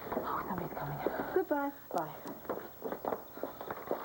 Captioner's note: footsteps